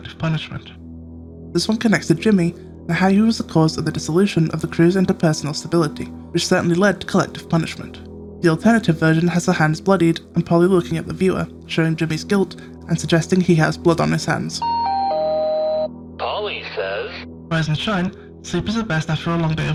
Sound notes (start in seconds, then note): 14.6 announcement noise